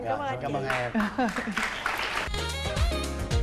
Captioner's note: applause